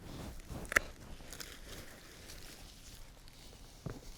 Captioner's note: clippers snipping